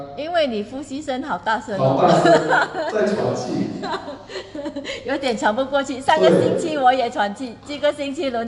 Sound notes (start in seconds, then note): 1.8 haha